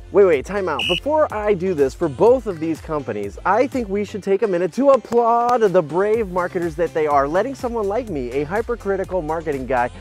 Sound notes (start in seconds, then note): 0.7 whistle blows